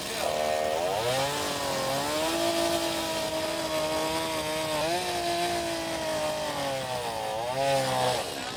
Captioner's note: chainsaw grinding